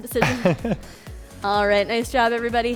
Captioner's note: chuckles